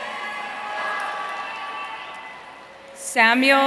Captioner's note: audience cheering